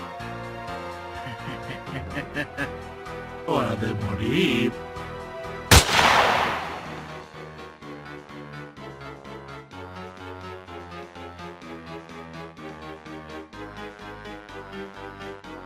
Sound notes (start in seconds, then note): 1.1 evil laughter; 3.8 in a demonic voice